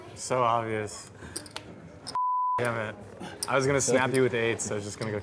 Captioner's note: beep